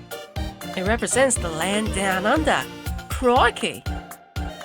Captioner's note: aussie impression